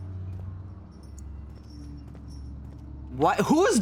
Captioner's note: chains rattling softly